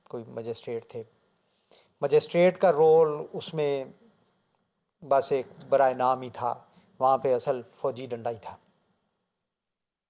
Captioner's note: Arabic